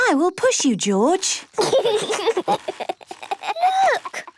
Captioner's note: George giggling